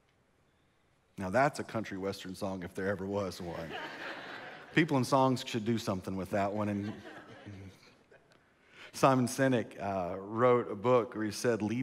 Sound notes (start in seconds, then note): 3.5 congregation laughs; 6.4 congregation laughs